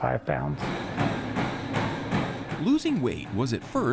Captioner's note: feet thudding